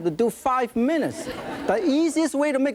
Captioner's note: audience laughing